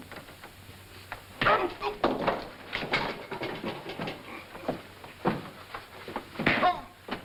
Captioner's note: Bill exclaims; punch thuds; punch thuds; Armstrong exclaims